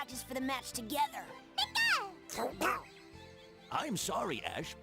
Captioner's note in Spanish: emocionado